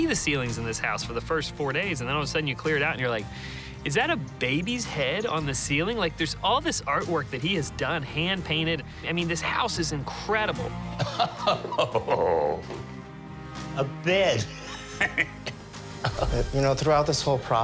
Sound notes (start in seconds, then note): 11.0 laughs; 14.5 chuckles